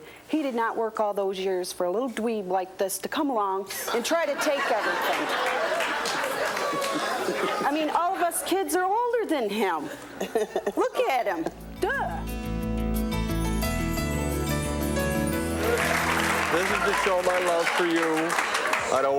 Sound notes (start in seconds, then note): 5.7 audience laughs; 13.4 soft acoustic music; 15.2 audience applause